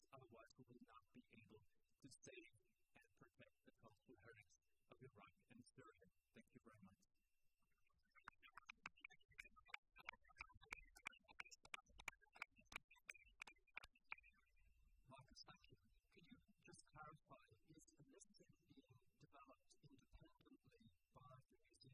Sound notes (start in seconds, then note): 8.2 applause